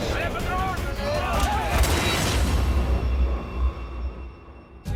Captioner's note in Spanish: Gritan al unísono